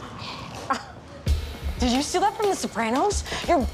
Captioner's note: scoffs